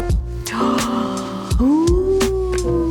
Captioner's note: calming jazz music; gasps